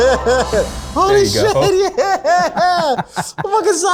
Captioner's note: laughs